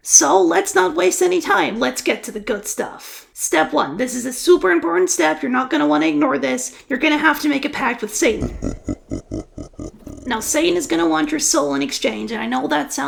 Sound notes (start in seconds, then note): 8.2 Satanic Laugh